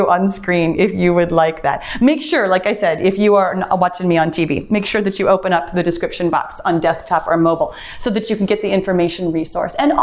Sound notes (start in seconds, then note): 3.0 timer beeps